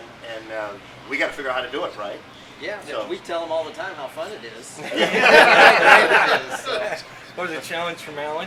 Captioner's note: laughing